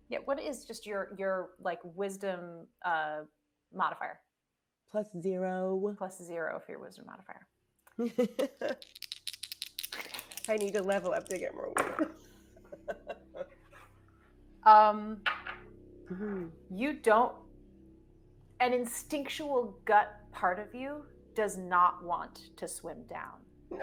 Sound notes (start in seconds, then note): 7.9 person chuckling; 8.5 dice clinking; 12.6 person chuckling